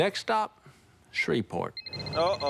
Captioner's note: phone rings